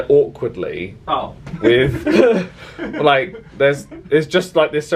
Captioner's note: laughs